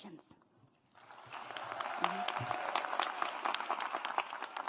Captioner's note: audience applauds